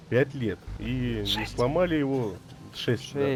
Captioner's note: whispering